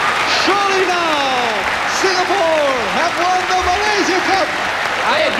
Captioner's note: applause